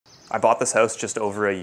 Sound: birds chirping

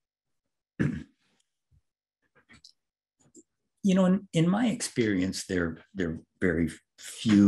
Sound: cough

